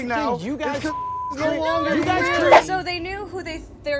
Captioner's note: beep